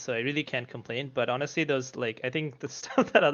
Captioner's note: laughs